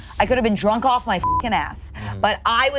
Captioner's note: beep